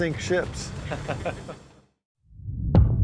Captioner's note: officers chuckling